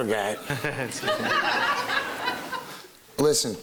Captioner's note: laughing